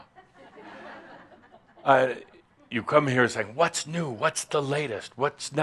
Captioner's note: some chuckles